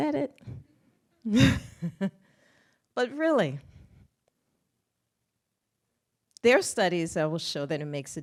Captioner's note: laughs